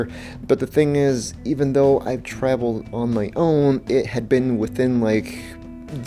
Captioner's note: none